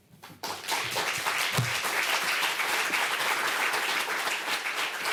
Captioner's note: applause